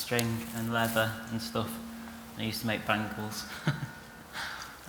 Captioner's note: laughs